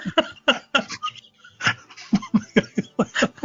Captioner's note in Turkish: kahkaha